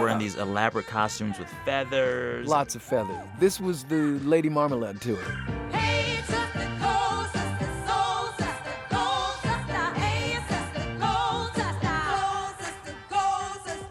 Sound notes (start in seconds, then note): 4.5 soundbite of tv show, "soul train"; 6.6 singing